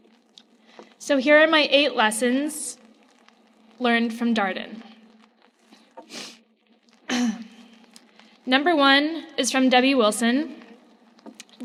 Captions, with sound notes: So here are my "Eight lessons learned from Darden." (sniffs) Number one is from Debbie Wilson.